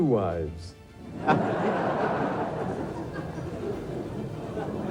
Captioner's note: audience laughs